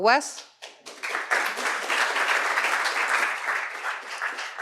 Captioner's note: applause